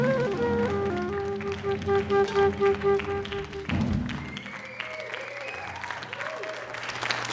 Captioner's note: applause